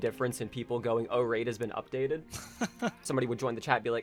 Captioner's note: bemused chuckle